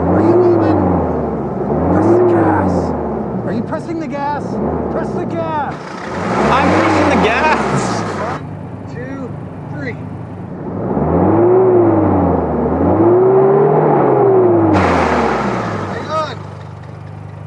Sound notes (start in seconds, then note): 10.6 engine revving